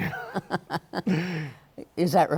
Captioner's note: laughs